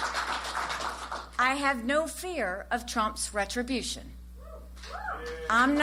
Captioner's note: applause